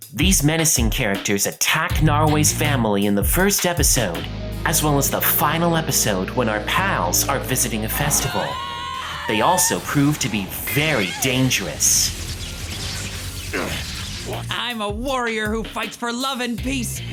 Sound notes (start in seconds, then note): 12.4 electricity crackling; 13.5 grunting